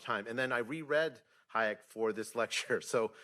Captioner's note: laughs